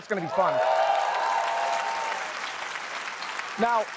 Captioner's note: cheering